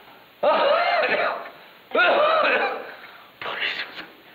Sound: coughing

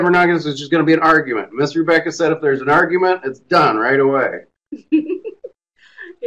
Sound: laughs

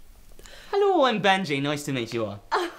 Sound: with Irish accent

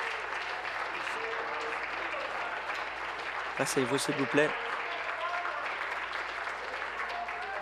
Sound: applause

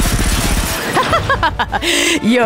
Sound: gunfire; Queen laughs menacingly

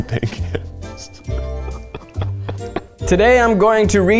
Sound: laughs

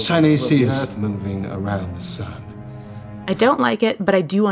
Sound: scoffs

